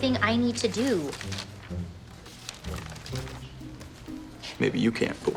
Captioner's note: light music; paper rustling